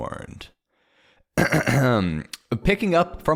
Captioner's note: clears throat